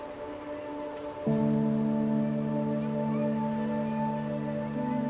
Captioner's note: waves crashing